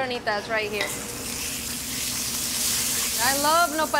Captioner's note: pan sizzling